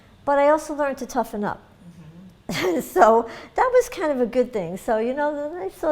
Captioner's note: laughs